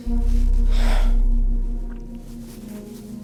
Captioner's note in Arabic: زفير عميق